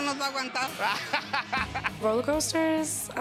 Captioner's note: speaking Spanish; laughing